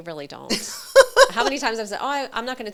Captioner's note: laughing